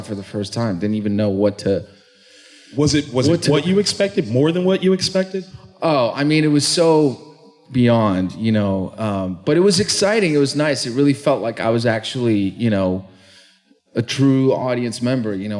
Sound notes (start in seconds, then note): none